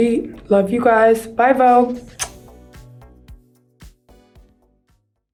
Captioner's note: lips smack